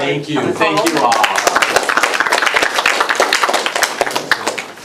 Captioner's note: applause